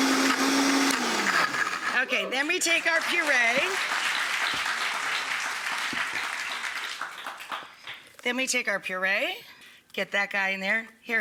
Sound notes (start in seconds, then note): 2.6 audience applauding